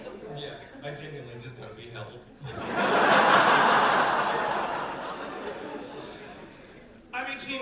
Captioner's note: audience laughter